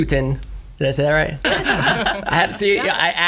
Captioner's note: laughter